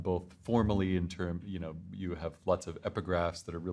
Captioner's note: none